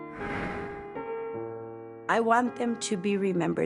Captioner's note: somber music; air whooshing